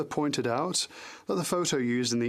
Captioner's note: speaking French